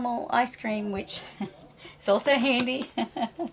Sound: laughs

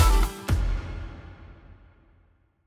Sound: energetic music continues; musical note thuds

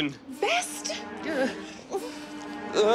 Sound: groans

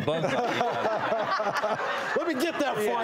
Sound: audience laughing

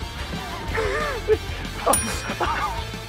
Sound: laughs

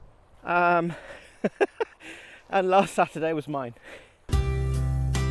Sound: laugh

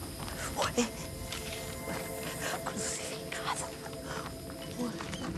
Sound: speaking spanish

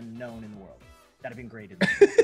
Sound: laugh

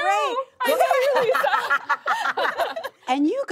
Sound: laughing

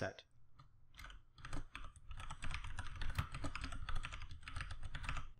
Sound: keyboard clacking

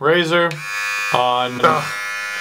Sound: buzz

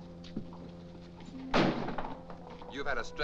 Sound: door slams

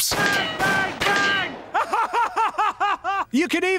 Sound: laughs

